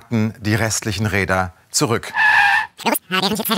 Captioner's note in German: Verzerrte Stimme